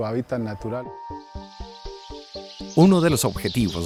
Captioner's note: sonidos silvestres